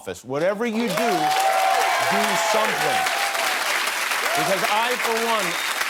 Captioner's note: cheers and applause